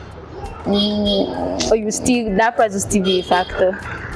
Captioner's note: horns honking